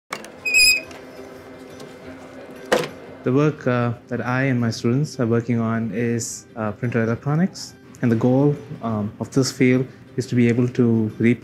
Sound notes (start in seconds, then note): 0.3 metal squeaks; 1.5 light music